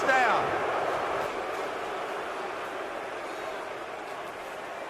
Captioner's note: booing